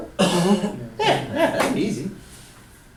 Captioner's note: voiceover